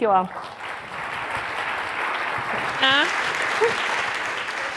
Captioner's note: audience clapping